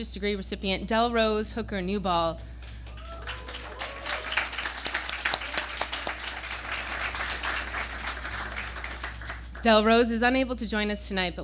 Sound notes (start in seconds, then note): 2.3 applause